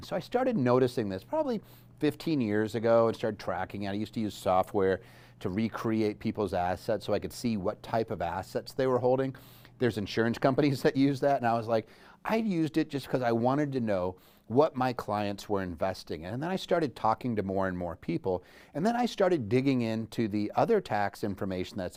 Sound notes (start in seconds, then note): none